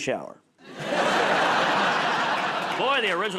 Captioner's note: laughter